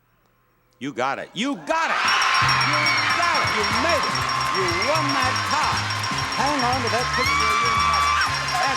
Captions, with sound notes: You got it, you got it! (bells rings and audience cheers) You got it, you made it! You won that car. Hang on to that picture of your mother.